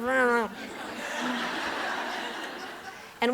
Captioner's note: laughter